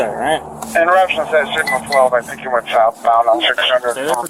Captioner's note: radio chatter